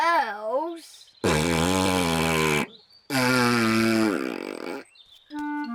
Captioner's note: blows raspberry